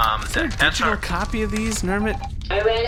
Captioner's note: printer beeps